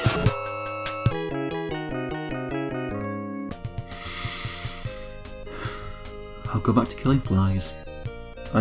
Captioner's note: sigh